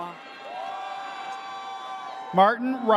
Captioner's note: audience cheers